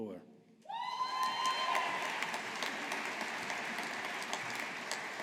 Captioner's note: audience applauding